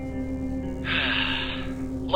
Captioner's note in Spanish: Suspiros